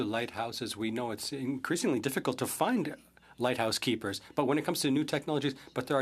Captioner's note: speaking French